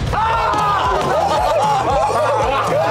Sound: laughter

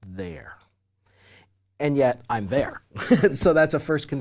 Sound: laugh

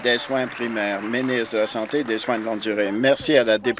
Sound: applause

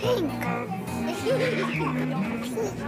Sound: children giggle

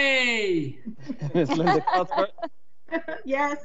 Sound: members laughing

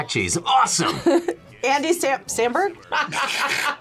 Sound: both laugh; laughs

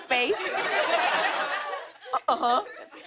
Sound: laughter

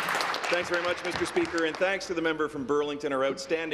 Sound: applause

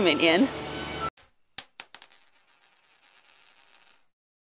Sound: coin jingling

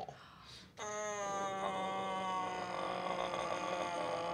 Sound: groaning

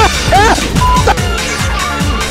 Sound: beeping sound effect

